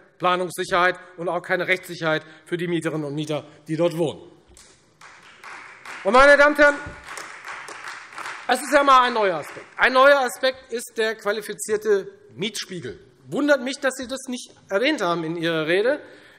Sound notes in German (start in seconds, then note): 5.0 Beifall Freie Demokraten und vereinzelt AfD